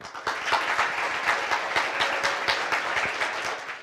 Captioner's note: applause